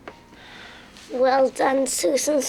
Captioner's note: sighs